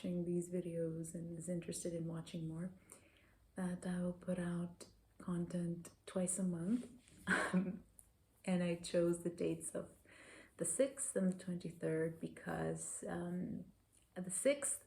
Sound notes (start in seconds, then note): 7.3 laughter